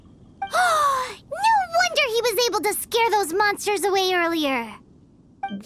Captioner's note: gasp